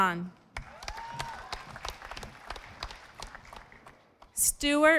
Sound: audience applauding

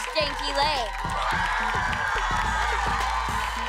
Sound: cheering

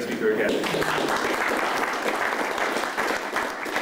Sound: applause

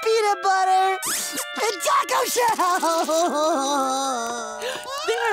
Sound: crying

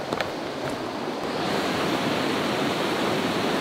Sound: water rushing

